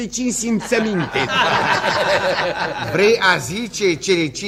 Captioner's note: all laugh